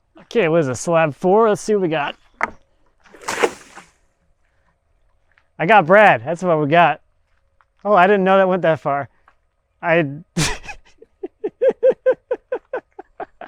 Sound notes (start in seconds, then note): 3.0 water sloshing; 10.4 chuckling